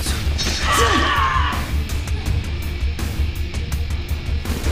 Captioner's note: Maya screams